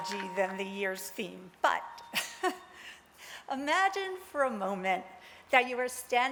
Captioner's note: laughs